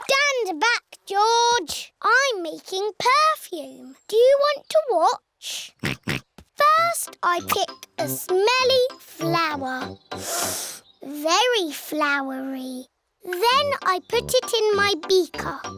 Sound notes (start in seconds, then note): 5.8 snorts; 10.2 sniffs